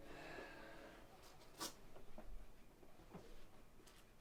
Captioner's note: Jim sighing